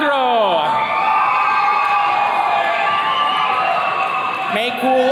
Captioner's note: attendees cheering